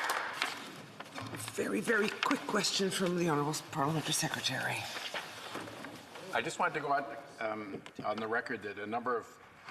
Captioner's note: applause